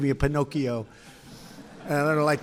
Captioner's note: laughter